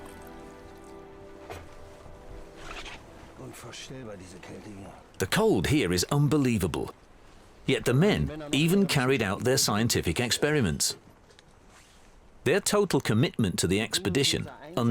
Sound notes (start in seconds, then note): 3.2 speaking German